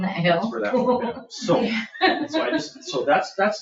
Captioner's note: laughs